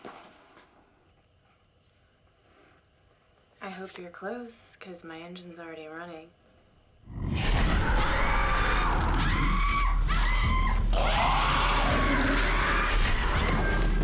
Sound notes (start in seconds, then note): 7.0 roaring; 9.5 screaming